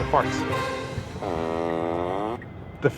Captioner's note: wet fart sound